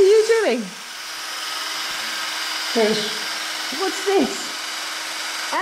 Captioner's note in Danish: hvirrende lyde